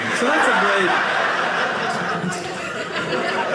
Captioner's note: audience laughing